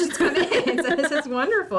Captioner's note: both laugh